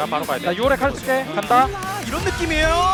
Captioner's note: BuZz